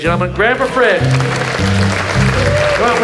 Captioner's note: audience applauds; upbeat music